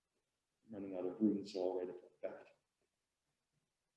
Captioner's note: murmurs